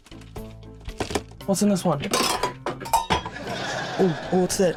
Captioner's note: clattering